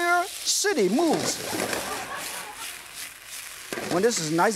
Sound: audience laughs

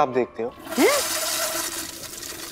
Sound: toilet flushing

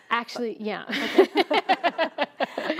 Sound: laughs

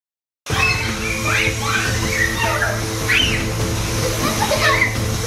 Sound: laughing and screaming

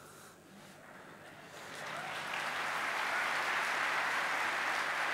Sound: audience applauds

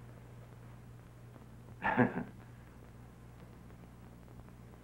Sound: chuckles

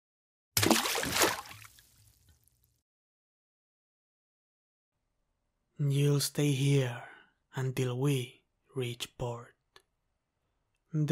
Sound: water splash

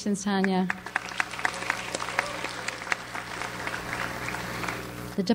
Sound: audience applauds

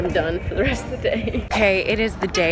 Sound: laughs

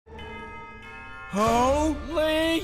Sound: bells ringing

